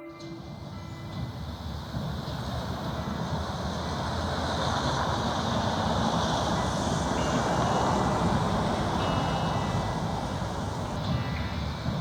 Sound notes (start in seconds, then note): 3.0 street noise